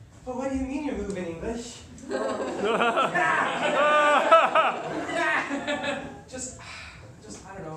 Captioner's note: laughter